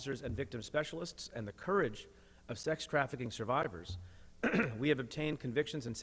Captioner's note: clears throat